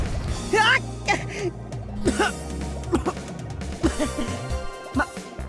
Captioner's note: surprised cry; cough